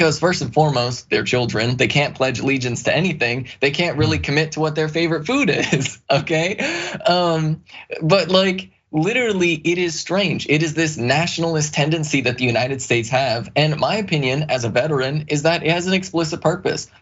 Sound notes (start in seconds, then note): 6.6 laugh